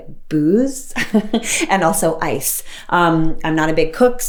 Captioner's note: light chuckling